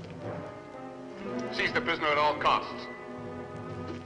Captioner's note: loudspeaker